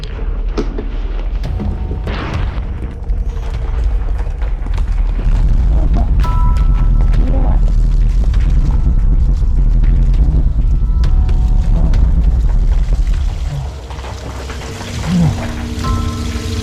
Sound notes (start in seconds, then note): 3.5 sound collapse